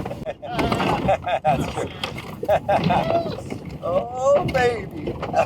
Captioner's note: laughs; truck rumbles